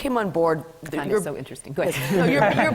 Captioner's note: laughs